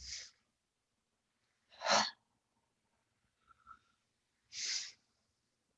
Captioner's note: inhales deeply and exhales sharply